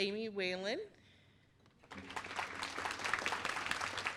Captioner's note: applause